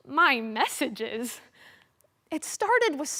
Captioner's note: sharp breath